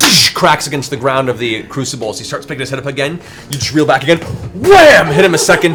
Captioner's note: wham; wham